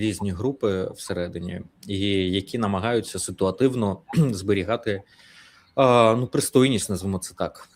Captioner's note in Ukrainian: прочищення горла